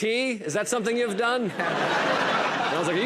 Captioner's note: laughter